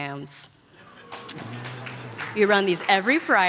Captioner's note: audience applauds